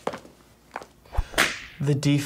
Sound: whip

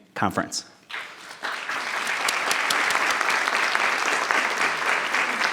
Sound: audience applauding

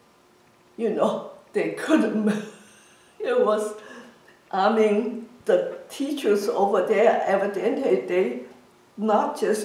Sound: laughs

